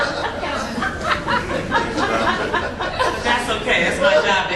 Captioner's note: laughing